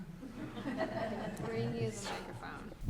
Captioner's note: audience laughing